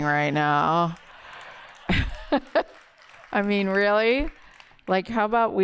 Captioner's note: laughter